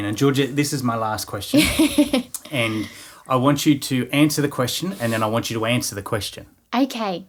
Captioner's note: laughing